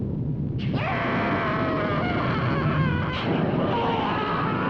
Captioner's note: witch screaming